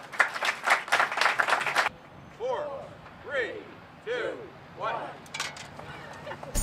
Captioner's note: applause